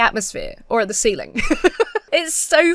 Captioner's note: laughs